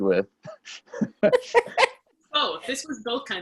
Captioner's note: laugh